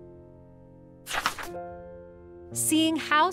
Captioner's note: paper crinkling